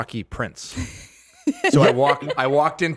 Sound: laughs

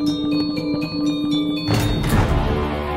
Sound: doors Opening

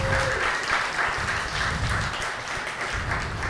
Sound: applause

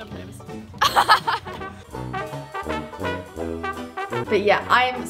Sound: laughs

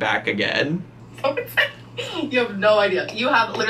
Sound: laughing

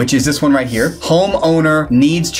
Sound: graphics swish

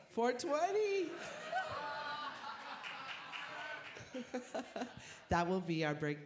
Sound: laughter

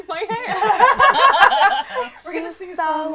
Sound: laughter

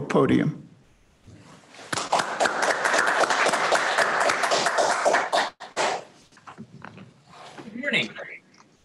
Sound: applause

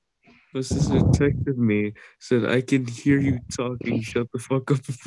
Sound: laughs

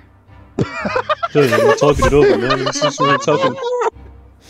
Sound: laughter

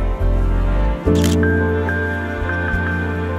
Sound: camera shutter clicks

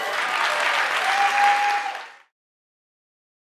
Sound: audience claps

